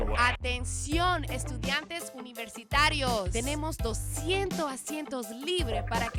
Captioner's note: speaking in a foreign language